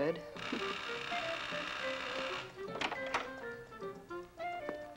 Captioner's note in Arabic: رنين جرس الباب; موسيقى مشرقة